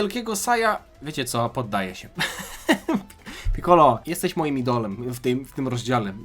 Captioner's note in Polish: śmiech